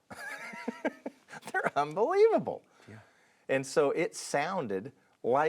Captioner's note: laughs